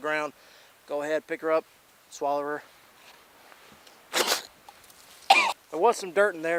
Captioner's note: spits and chokes